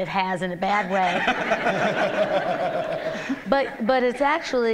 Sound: laughter

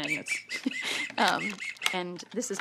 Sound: whistle tooting

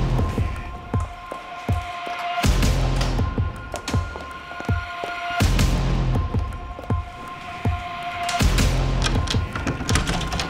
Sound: footsteps

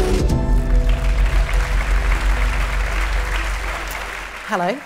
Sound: applause

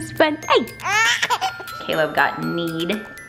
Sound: laughing

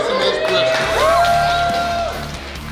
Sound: cheering & Clapping

